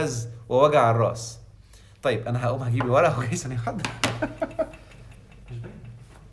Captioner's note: laughs!